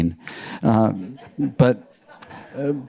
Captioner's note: audience members laughing